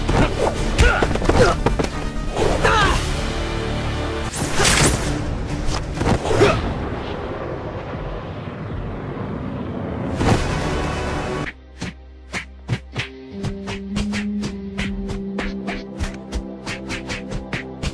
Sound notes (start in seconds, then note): 4.5 web Thwip